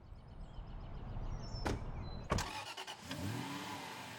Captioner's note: birds chirping; engine rumbling